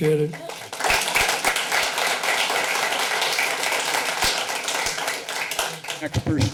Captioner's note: applause